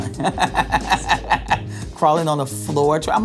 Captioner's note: laughing